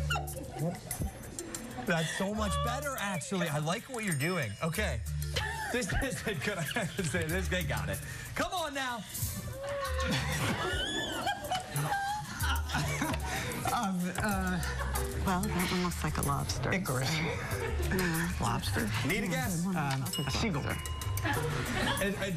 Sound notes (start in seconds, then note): 5.4 laughter; 9.8 laughter